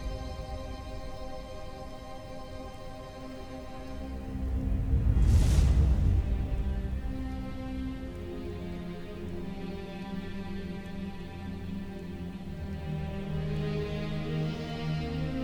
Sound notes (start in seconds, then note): 4.2 energy whoosh; 6.7 melodramatic music playing